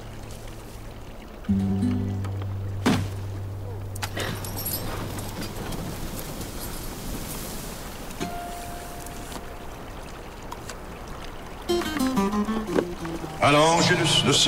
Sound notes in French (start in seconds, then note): 1.5 fracas; 2.3 efforts